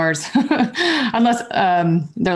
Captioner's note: chuckles